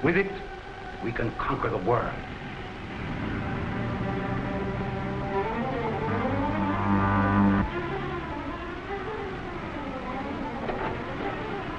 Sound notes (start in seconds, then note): 3.7 suspenseful music; 6.2 devisualizer humming